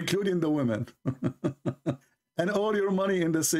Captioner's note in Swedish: Skratt